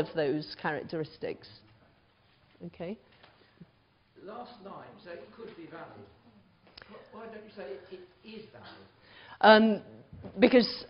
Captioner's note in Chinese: 無聲